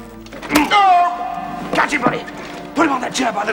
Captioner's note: cries out